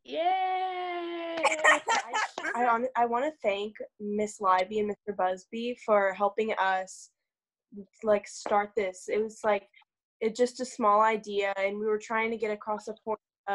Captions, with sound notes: - Yay. (laughs) (applause) - I wanna thank Miss Liby and Mr. Busby for helping us start this. It was like just a small idea. And we were trying to get across support